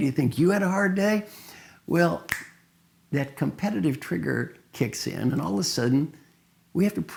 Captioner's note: snap sound